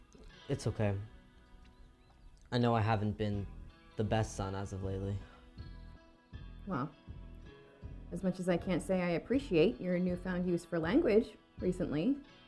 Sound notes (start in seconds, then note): none